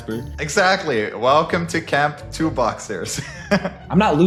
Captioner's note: laughs